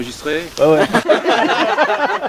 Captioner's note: laugh